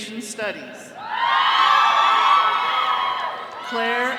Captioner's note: all cheering